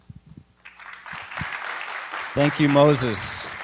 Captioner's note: applause